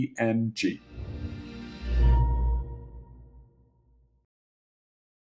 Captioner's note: chiming tone